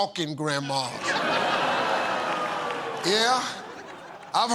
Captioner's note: laughter